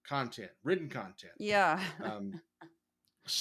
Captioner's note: laugh